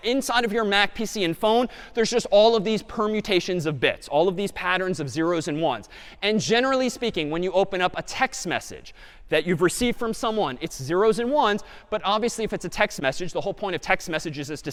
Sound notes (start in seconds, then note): none